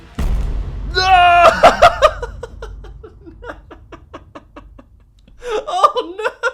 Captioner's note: tense music; laughs